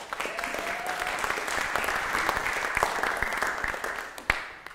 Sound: applause

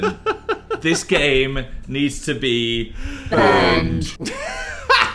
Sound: laughs; distorted deep vocal; laughs

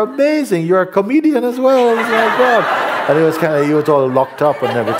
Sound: laughter

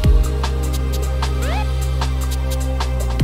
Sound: SFX: Siren whoop!

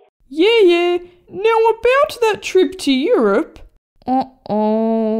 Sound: none

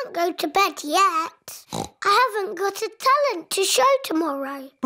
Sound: oinks

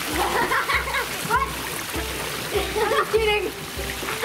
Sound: laughing

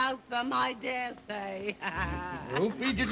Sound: laughing

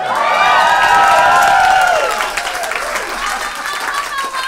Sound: audience cheers

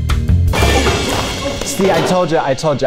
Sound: crashing

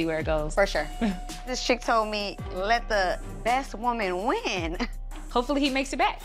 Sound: chuckles; chuckles softly

